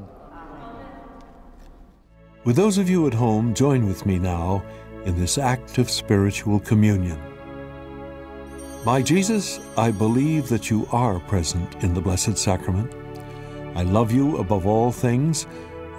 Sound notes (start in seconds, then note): 8.4 bells ringing